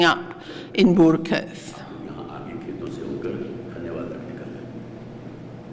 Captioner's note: non-english speech